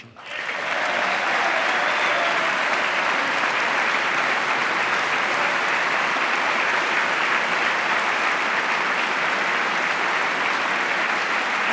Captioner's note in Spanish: aplauso